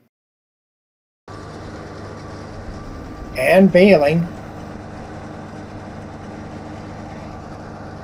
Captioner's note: tractor/baler sound